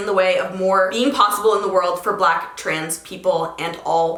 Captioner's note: none